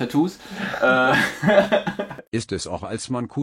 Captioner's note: laughter